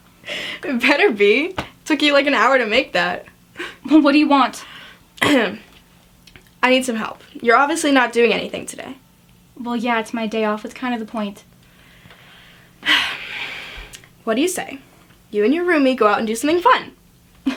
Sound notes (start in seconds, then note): 5.5 clears throat; 12.8 sighs